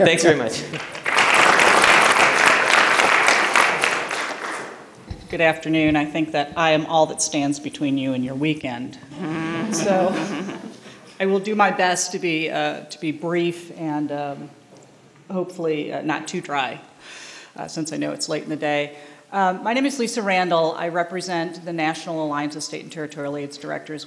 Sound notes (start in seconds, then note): 0.5 applause; 9.6 laughter